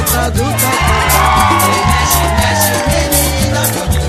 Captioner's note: crowd cheering